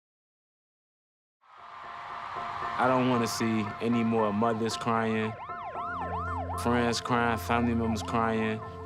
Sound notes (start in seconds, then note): 1.5 crowd cheering